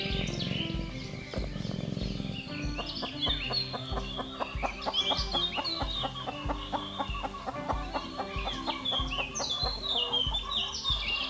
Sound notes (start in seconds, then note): 0.1 Honey Cat purrs; 3.5 Muriel squabbling